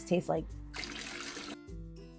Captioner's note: liquid pouring